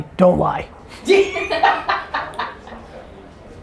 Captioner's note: laughs